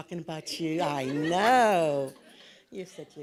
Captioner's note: audience laughs